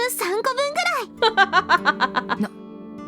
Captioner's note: chuckles